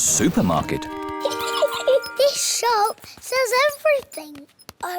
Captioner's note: giggles